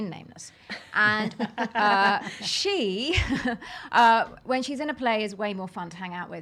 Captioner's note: laughs